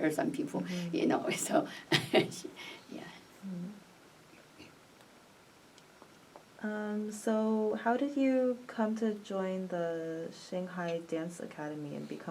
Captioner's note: laughs